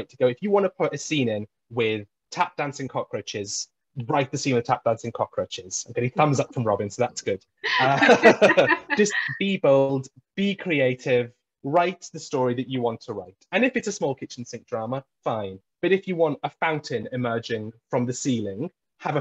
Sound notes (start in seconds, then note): 7.6 laugh